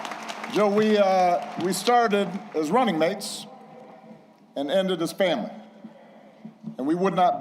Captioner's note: applause